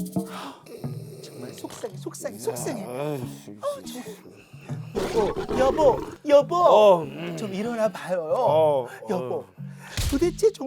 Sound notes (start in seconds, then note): 3.4 mumbling; 3.4 snoring